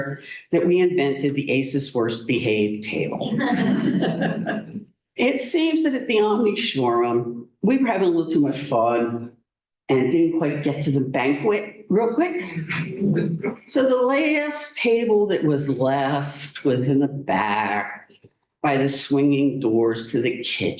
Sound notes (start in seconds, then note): 3.3 laughter